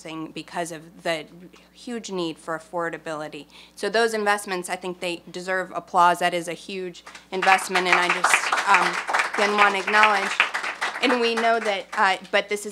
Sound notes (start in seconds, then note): 9.0 applause